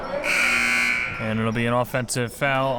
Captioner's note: buzzer blares